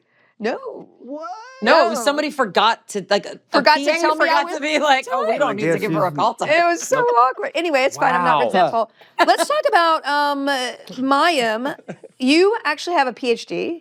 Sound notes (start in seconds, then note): 9.1 laughs